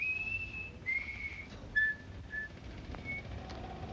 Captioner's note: whistling